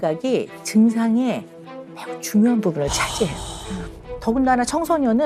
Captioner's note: deep sigh